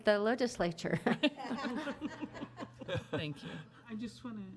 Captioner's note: board laughs